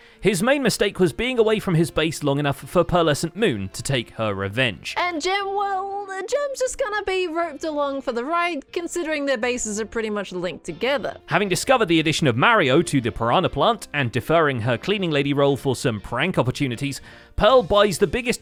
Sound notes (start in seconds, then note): none